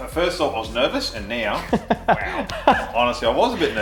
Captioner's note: he laughs